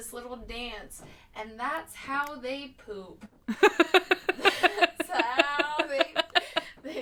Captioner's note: both laughing